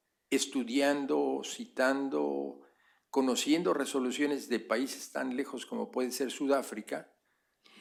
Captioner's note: spanish; spanish